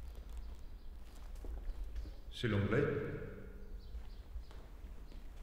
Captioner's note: speaks in French